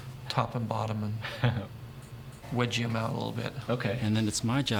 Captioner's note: chuckling